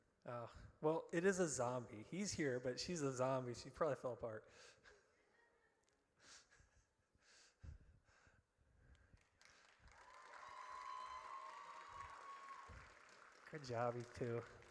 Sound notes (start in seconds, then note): 9.9 audience cheers